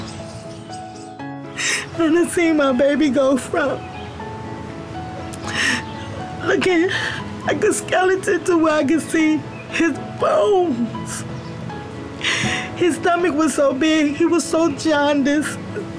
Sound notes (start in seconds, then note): 0.2 sad music; 1.4 mom cries